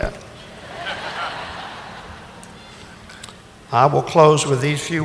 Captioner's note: audience laughing